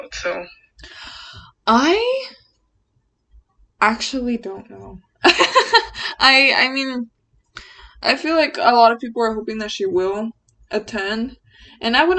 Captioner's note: deep inhale; laughs